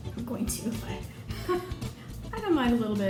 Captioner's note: laughs